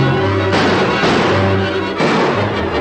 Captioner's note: gunshots